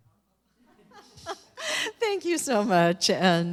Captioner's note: chuckles